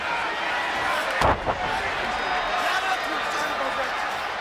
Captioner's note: wrestlers grunting